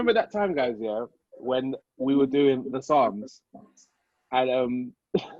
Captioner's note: laughs